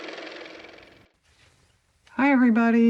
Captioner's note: car motor